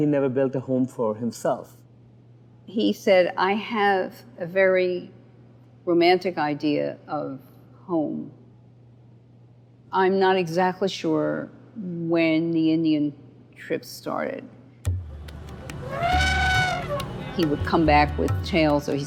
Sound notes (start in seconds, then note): 14.8 percussive music; 15.6 elephant trumpets